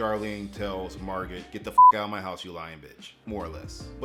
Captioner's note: beep